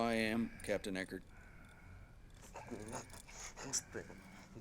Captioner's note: breathing heavily